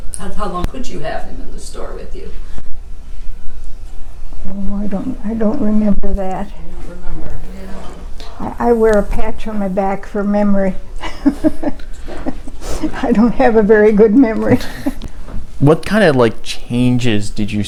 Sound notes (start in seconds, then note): 11.0 chuckles